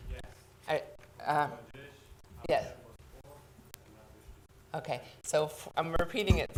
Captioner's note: speaking quietly